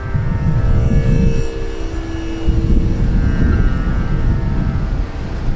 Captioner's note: wind blowing